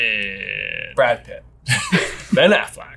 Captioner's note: laughs